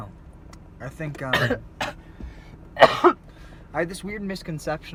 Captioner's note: coughs